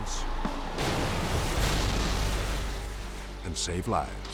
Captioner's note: bus crashing